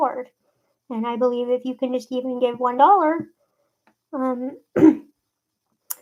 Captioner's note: clears throat